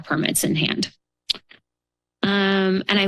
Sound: pause

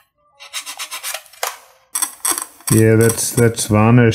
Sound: scraper scratches

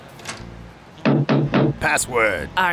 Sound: knocks

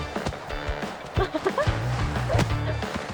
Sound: laughter

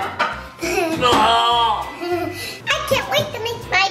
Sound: laughs

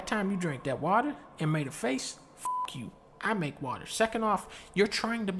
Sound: beep

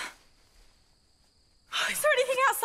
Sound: sighs

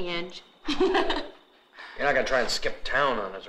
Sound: laughs

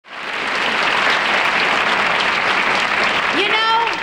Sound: audience applauds

